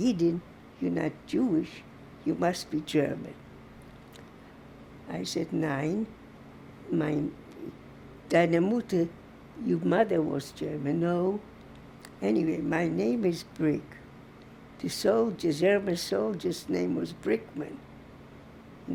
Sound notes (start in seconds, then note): 0.0 german; 6.6 german